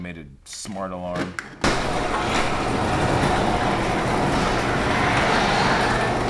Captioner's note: garage door opening